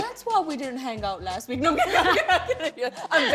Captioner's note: both laugh